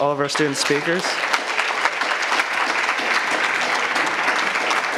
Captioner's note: audience applauds